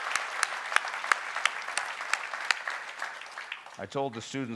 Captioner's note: applause